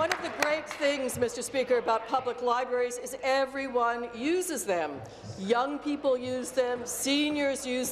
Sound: applause

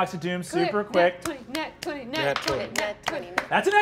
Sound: all chanting

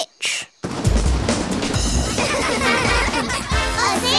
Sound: laughing

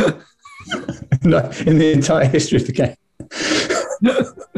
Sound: laughing; laughing; laughter

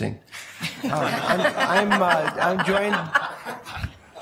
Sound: laughing

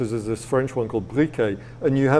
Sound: speaking foreign language

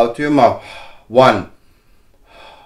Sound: exhaling

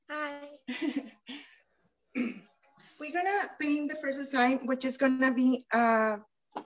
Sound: chuckles

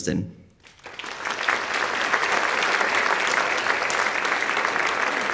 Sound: audience applauding

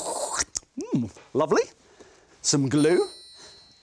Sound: slurps

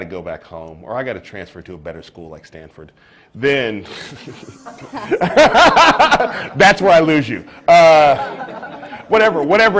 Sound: laughter

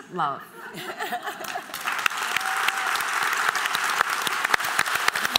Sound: applause

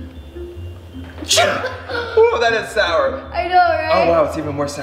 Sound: sneeze

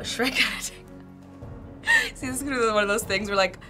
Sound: laughing

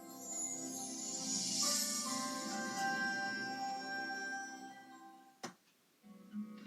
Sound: 3ABN chimes

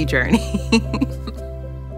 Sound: laughs

